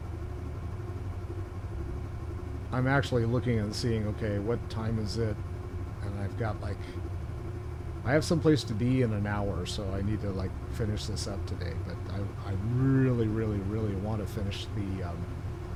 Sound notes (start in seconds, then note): none